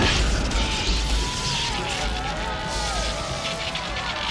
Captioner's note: electronic crackling